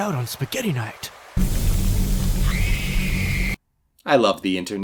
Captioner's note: hissing, sizzling, screaming